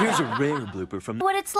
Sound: audience laughing

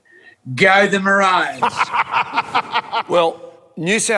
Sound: people laughing

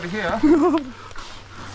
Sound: laughs

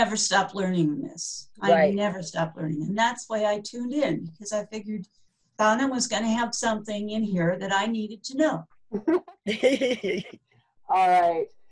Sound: chuckling

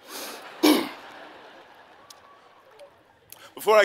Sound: laughing

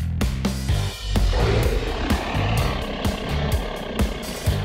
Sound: dinosaur roaring

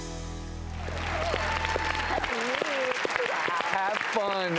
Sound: applause

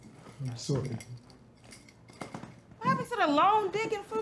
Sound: chain clinking

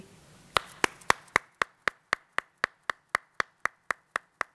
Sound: applauding

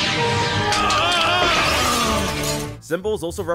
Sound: sad Noises

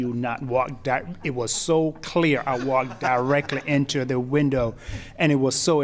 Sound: laughter

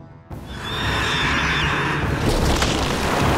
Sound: screeching

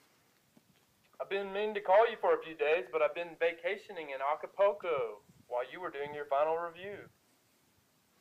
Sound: phone voice

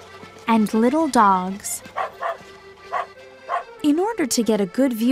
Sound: dog barking

